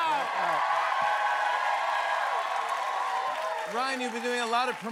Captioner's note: cheers and applause